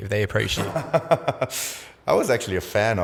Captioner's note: laughs